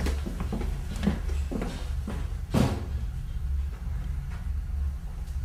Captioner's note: bang from ceiling